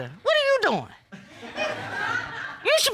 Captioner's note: audience laughs